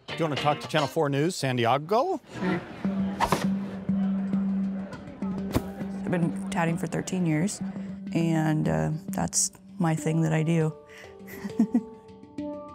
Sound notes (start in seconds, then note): 2.4 mellow music; 3.2 air whooshes; 4.4 attendees chattering; 11.2 chuckles; 12.5 mellow music continues